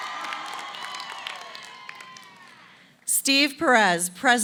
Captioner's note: applause